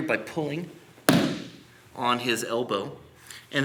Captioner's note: loud stomping